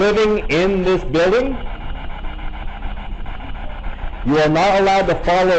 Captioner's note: static buzzing